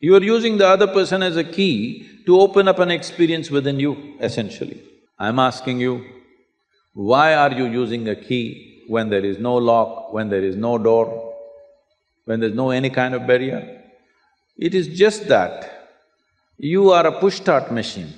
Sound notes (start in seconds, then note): none